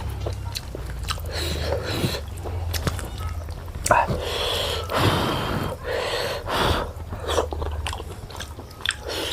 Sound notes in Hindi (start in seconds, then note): 4.0 हांफने की आवाज़; 4.0 गहरी सांस लेने की आवाज़